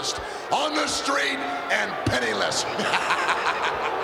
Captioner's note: cackling